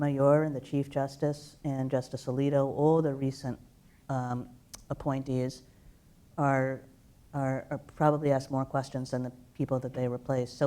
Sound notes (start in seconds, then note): none